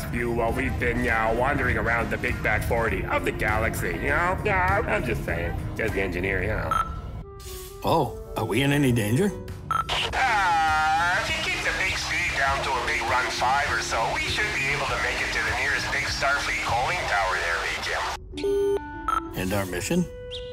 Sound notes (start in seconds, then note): 10.1 Engineer Joe on loudspeaker; 17.4 CB radio mic off